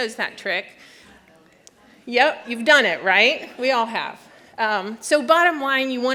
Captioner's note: laughter